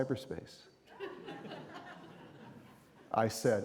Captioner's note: audience laughing